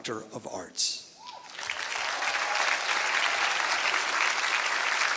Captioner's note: applause